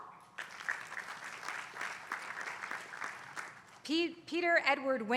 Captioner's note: applause